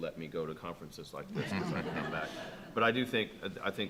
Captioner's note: attendees laughing